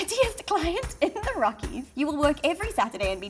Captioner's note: laughs